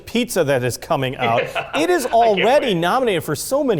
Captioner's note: laughs